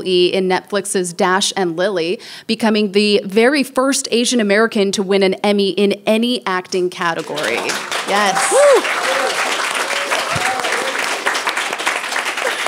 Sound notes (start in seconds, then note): 7.1 people applauding